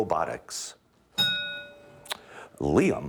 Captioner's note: ding